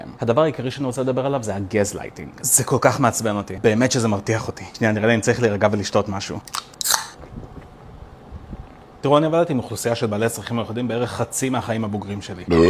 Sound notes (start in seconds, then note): 6.4 opens a can of Sprite; 6.8 gulp, gulp gulp